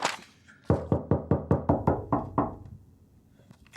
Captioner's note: door knocking